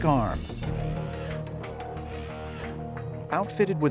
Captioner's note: electronic whirring